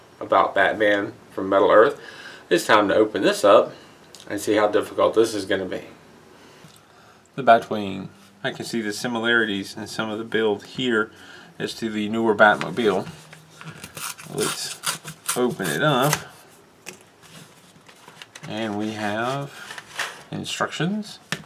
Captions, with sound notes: about Batman from Metal Earth. It's time to open this up and see how difficult this is going to be. The Batwing I can see the similarities in some of the build here as to the newer batmobile Let's [tearing paper] open it up. And we have instructions.